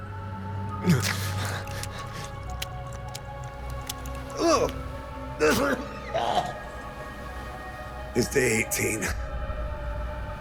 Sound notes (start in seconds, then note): 0.7 chomping; 3.9 sputters; 4.9 coughing